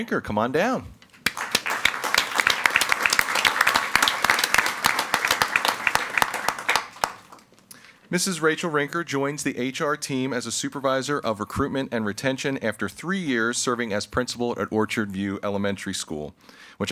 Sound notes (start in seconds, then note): 1.1 everyone applauding